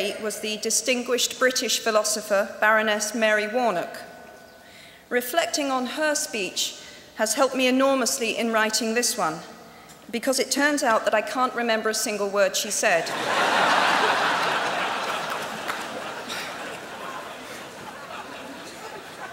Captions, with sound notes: was the distinguished British philosopher Baroness Mary Warnock. Reflecting on her speech has helped me enormously in writing this one because it turns out that I can't remember a single word she said. [LAUGHTER]